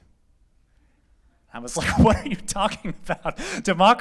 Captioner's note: laughter